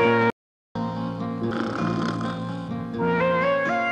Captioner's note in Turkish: Film müziği devam ederken horlama sesi